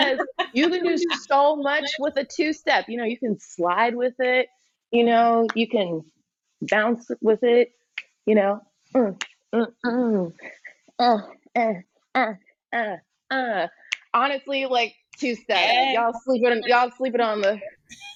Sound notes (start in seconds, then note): 0.0 laughs; 8.8 makes rhythmic sounds while she dances; 17.9 laughs